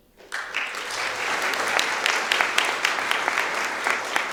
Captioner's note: audience applauding